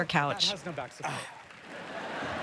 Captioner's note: applause